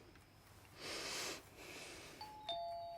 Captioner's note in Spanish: respira profundamente; suena el timbre